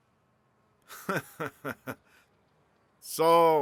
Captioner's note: fred laughs